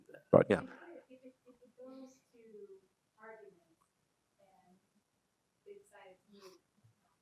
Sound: woman in sleeveless top speaks faintly

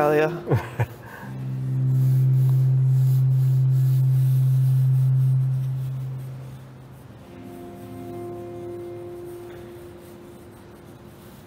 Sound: laughs

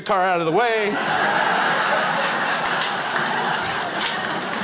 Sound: crowd laughs

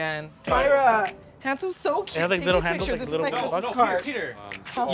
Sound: all chattering

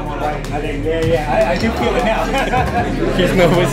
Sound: nervous laughs

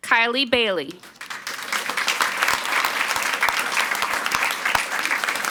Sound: audience applauds

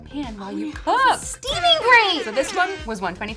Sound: air horn honks

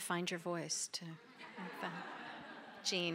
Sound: laughter

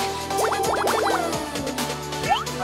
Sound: heart beating

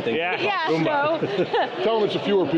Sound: group laughing

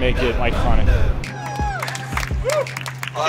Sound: applause

